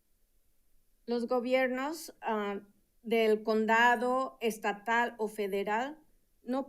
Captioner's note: speaking in Spanish